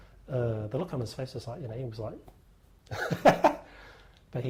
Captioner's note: laughter